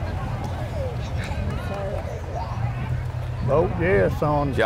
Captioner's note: revving and chattering continue